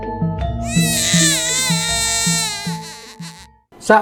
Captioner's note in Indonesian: Suara bayi menangis